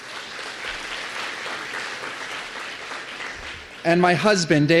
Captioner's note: applause